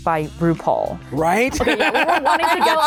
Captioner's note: laughter